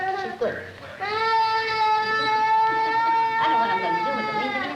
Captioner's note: crying